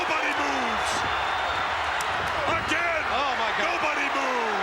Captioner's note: applause